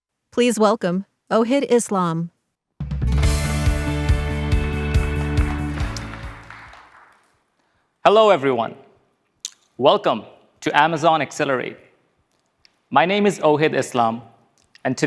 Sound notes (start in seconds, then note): 2.8 upbeat music; 5.8 audience applauding